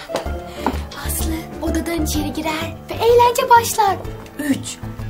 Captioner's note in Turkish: Fısıldar